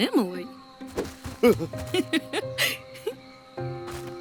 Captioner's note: laughs